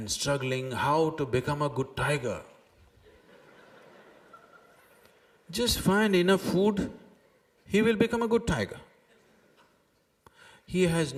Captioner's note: laughter; 笑聲